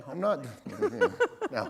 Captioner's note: chuckle